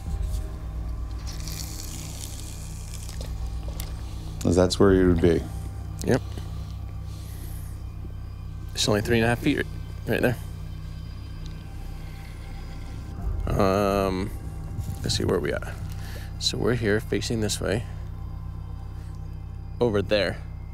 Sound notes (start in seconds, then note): 1.3 reel clicks; 1.3 water splashes